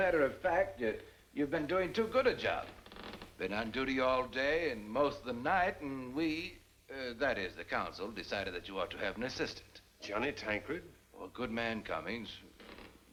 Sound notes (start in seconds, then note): none